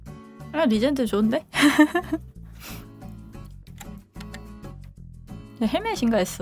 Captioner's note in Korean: 콧방귀